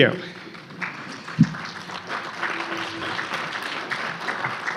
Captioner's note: audience clapping